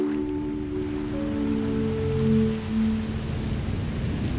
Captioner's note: wind rustling